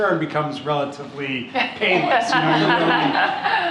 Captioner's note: laughter